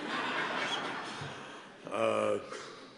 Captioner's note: laughter